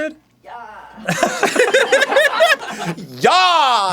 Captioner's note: both laugh